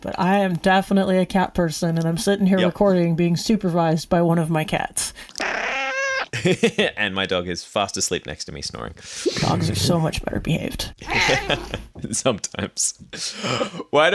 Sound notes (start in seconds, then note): 5.4 meowing; 9.3 snoring; 11.0 laughs